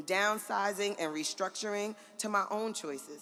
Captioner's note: none